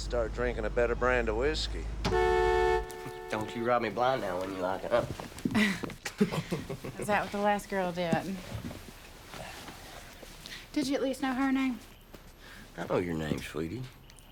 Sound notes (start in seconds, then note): 2.0 horn blares; 5.4 laughing